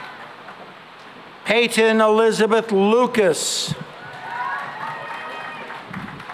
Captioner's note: cheering and applause